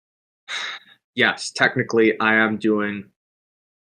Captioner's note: sighs